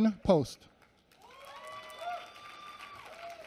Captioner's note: applause